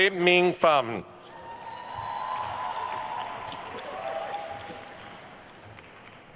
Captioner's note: attendees cheering and applauding